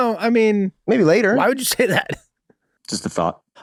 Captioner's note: Rob laughing amusingly